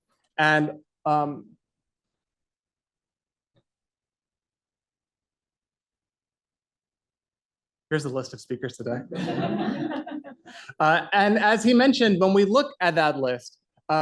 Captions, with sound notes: and here's a list of speakers today. [LAUGHTER] All right. And as he mentioned, when we look at that list,